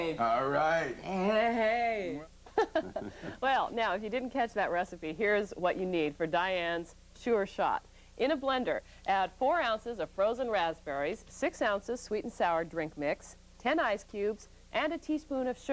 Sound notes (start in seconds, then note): 2.5 laughing